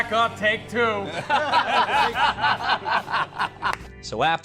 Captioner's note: laughing